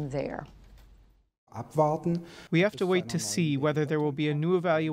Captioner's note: through translator